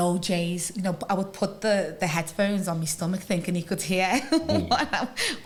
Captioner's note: laughter